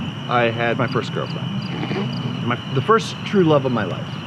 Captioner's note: chortle